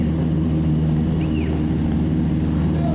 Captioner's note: whistling